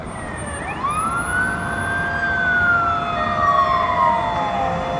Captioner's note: sirens wailing